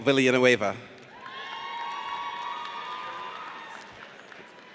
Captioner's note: audience cheers